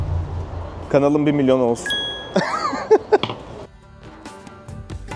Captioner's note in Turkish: kahkaha